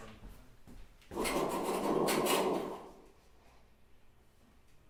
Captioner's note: whooshing sound playing